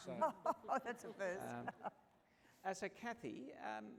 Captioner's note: laughs